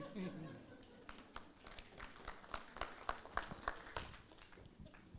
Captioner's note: crowd applauding